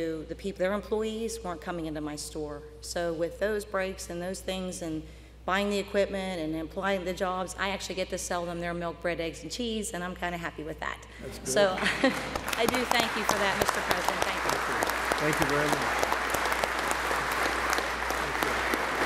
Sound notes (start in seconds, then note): 11.3 applause